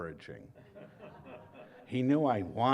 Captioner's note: laughter